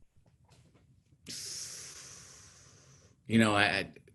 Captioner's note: exhaling